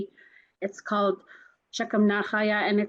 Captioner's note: speaks in foreign language